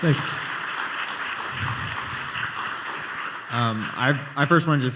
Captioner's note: applause